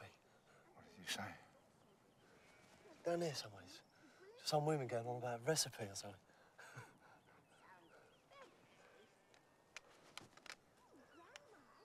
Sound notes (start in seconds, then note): 6.6 chuckles